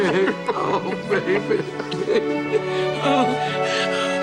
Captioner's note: heavy sobbing